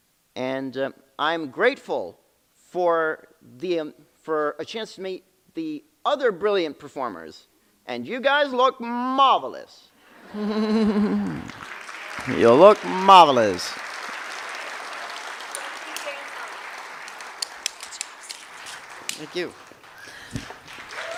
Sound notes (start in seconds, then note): 13.3 cheers and applause